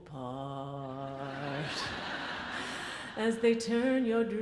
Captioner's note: audience laughs